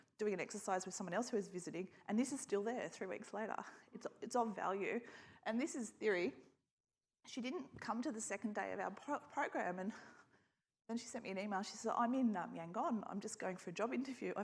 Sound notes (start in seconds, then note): none